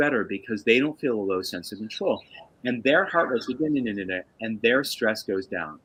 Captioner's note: makes noise - nuhnnuhnuh